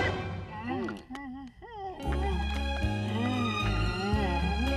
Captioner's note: cooing sounds